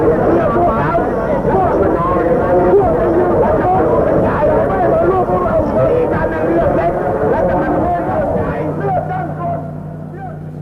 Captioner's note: noises from demonstration